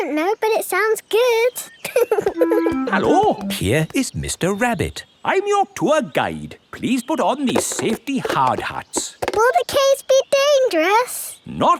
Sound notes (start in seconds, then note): 1.8 laughing